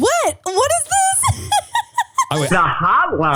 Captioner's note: laughing